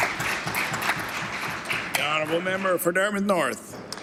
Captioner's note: applause